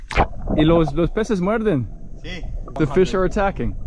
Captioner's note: speaking in foreign language